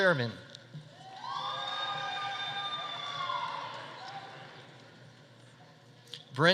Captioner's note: audience cheering; audience applauding